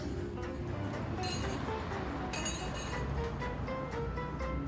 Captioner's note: bells jingle